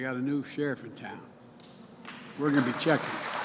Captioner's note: applause